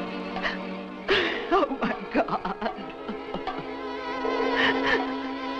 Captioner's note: sobs